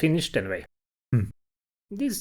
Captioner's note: humph